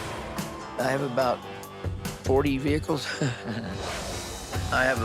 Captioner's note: laughs